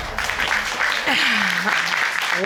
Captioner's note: scoffs